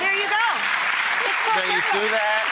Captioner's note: applause